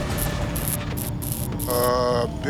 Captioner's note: tapping gets louder; electricity buzzing